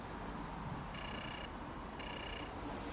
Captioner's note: doorbell rings